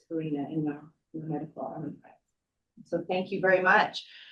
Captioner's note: speaks faintly